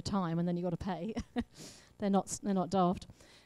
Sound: laughs

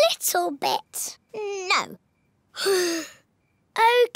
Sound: sighs

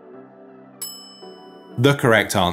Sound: bell clinking

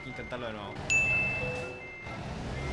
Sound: ding

